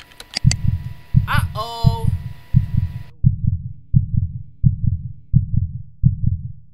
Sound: heart breaker sounds

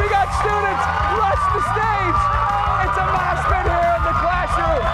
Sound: cheers and applause

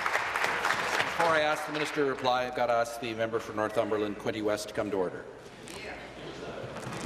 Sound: applause

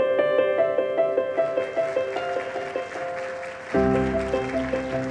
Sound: audience applauding

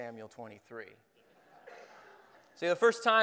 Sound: laughing

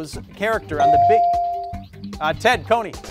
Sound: bell ringing

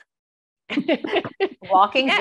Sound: laughing

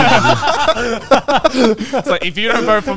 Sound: all laughing

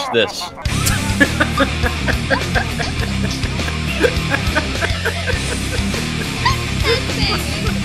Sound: Dunkey and Leah laugh

